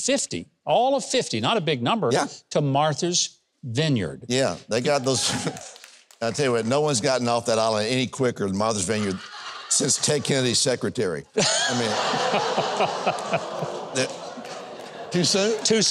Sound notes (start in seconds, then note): 11.8 audience gasps